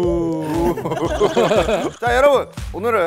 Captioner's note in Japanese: ｗｗｗｗ